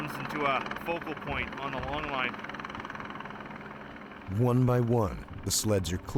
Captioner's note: helicopter blades whirring